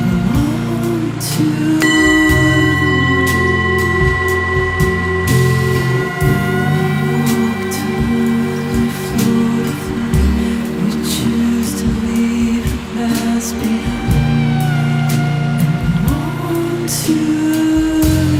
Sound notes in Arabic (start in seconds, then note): 2.2 يستمر كلانج